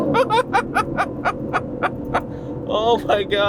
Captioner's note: laughs